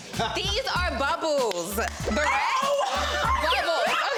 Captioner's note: claps; Young Ezee laughs